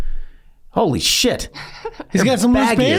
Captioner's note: laughs